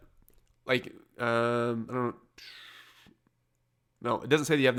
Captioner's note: exhales